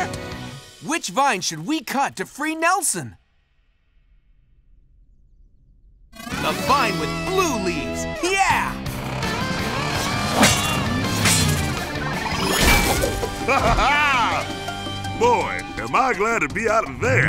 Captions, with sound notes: Which vine should we cut to free Nelson? The vine with blue leaves, yeah! [laughing] Boy, am I glad to be out of there.